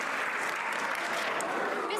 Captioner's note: some Applause